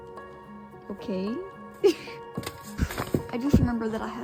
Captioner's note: laughs